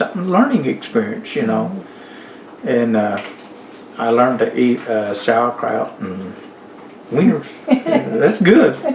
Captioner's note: laughter